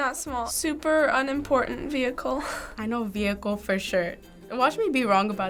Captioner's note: chuckles